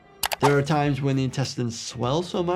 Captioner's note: mouse clicking